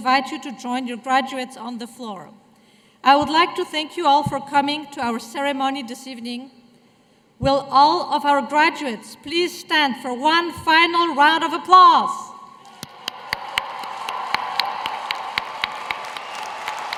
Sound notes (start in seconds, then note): 12.7 applause